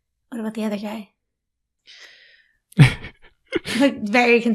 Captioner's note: laughs